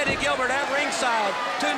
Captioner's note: crowd cheering